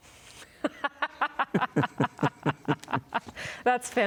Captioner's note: laughs